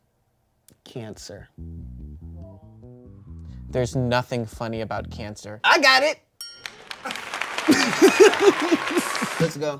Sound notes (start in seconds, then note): 6.4 bell dings; 6.6 applause sound effect